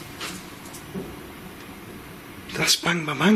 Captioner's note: banging